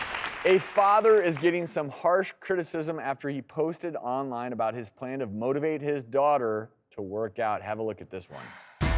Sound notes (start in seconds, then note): 0.0 audience applauds